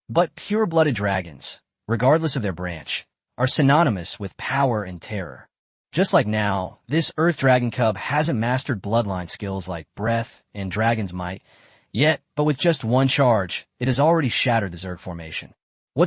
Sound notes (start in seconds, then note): 11.4 breath